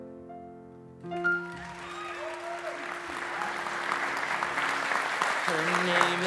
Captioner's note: audience applause